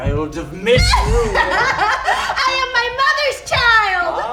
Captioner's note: laughs